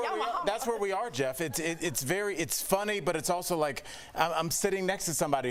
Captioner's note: laughter